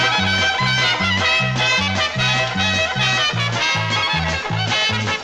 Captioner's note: تصفيق